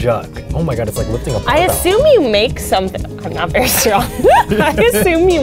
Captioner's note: laughs